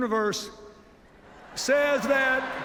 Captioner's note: laughter, applause